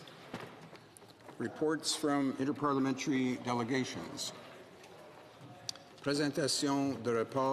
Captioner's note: speaking French